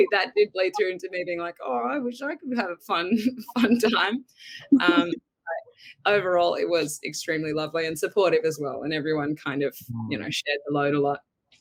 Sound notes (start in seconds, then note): 4.6 giggles